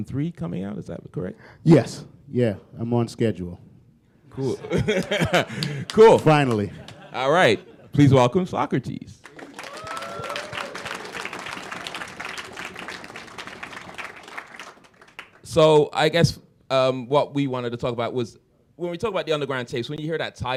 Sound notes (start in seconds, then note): 4.4 laughter; 11.0 applause